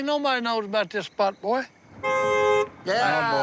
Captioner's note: car horn honking